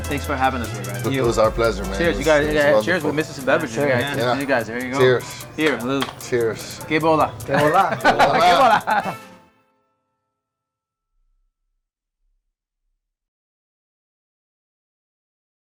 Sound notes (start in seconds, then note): 9.3 laughter